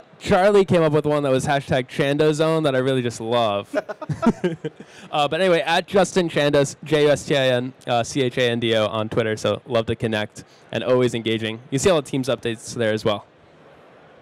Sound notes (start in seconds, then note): 3.6 he laughs